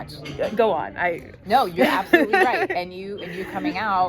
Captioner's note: laughs